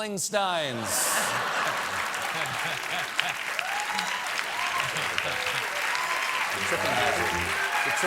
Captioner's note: cheers and applause